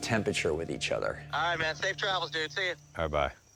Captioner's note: on phone